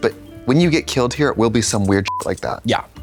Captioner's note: beep